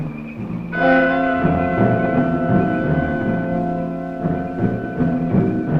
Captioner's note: speaking in foreign language